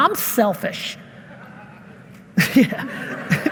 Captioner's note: audience member laughing hysterically